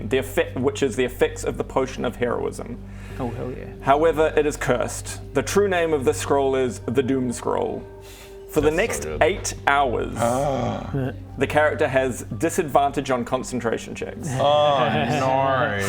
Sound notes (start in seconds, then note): 10.2 heehee; 10.2 gasp